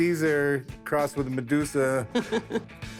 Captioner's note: chuckles